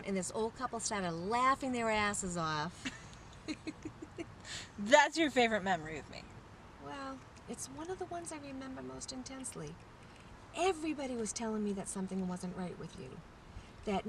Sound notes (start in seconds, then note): 3.4 chuckling